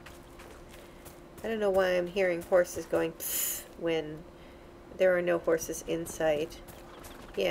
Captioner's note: bad attempt at a horse noise